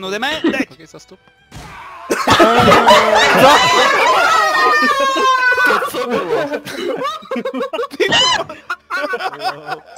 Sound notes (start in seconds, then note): 2.1 laughter